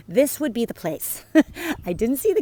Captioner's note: chuckles